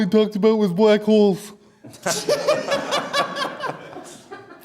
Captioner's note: audience Laughter